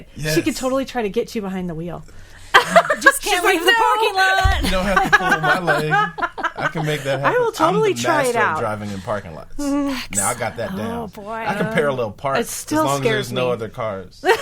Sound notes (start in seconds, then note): 2.5 laughing